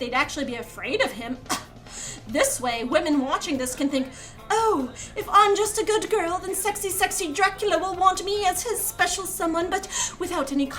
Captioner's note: scoff